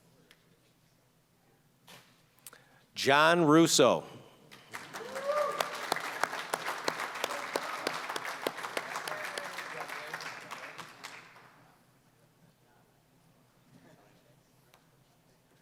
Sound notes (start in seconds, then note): 4.5 applause